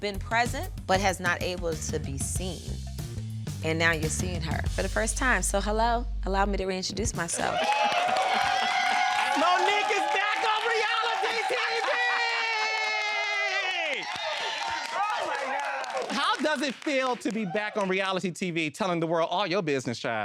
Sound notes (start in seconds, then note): 7.2 audience cheering; 7.3 laughing